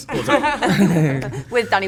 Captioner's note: laughs